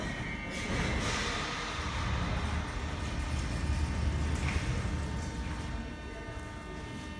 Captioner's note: opening doors of arriving train